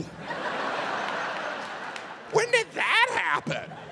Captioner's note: audience laughs